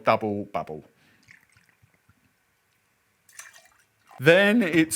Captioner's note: liquid pouring